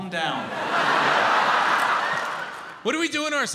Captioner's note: audience laughs